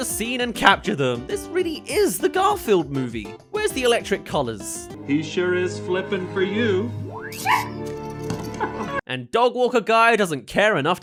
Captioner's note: yelp